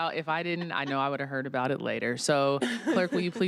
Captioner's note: laughter